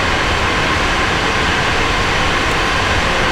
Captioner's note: engine revving